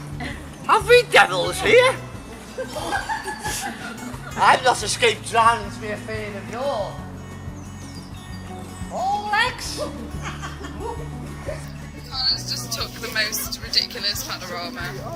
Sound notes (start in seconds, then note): 2.5 maniacal laughter from the director